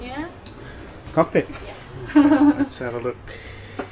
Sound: laughing

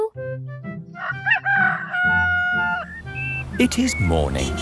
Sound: rooster crowing

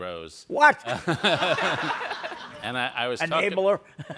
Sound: all laugh

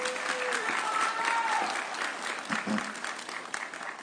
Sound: audience cheering

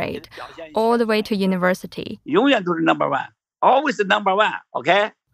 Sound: speaking Mandarin; speaking Mandarin

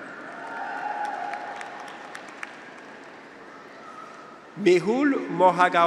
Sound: graduates cheer; audience applauds

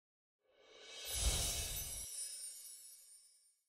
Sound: chimes ring

